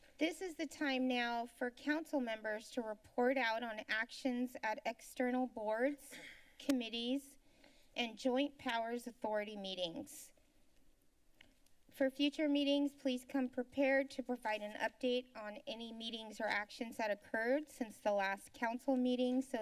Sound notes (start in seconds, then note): 10.4 silence; 11.3 clicks Tongue